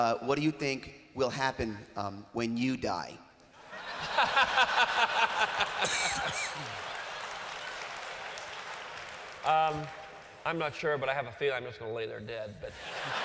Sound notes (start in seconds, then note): 3.6 laughter; 6.4 applause; 12.7 laughter